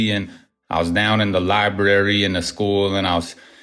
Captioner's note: none